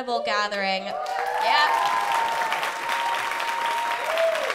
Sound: cheers and applause

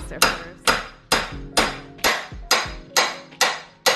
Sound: hammering

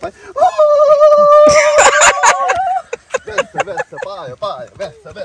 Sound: laughing

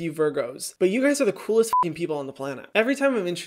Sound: beep

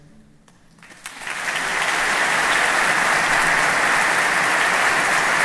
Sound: audience clapping

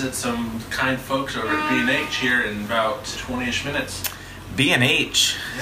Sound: car horn honks loudly on the street

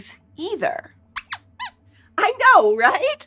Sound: squeaks squeaks

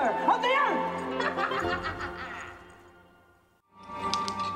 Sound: laughing

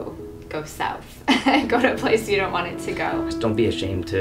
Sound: laughing

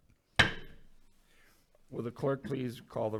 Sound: gavel bangs

